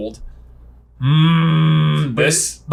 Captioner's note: groans